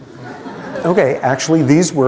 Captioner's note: laughter